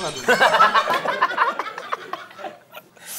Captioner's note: laughing